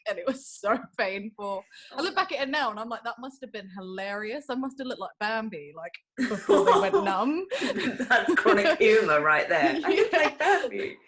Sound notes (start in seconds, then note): 6.2 laughter